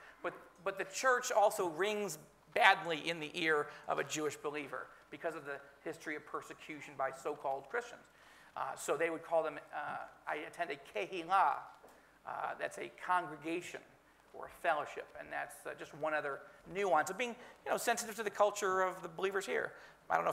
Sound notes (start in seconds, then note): 10.9 speaking in foreign language